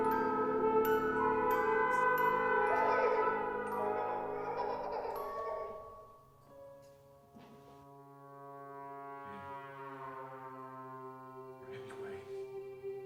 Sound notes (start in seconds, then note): 3.7 girl giggling